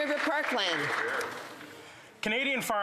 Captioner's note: some Applause